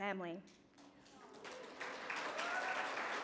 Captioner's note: cheering and applause